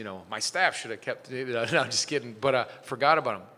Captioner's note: chuckles